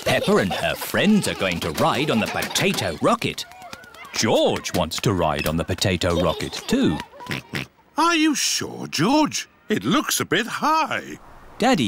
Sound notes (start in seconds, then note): 7.6 oinks